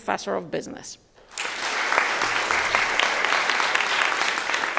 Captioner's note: audience applauding